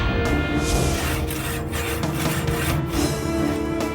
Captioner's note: dramatic music; saw hissing; suspenseful music